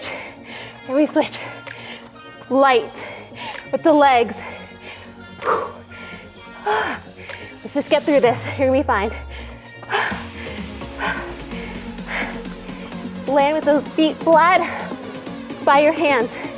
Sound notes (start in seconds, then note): 4.9 heavy breathing; 9.7 heavy breathing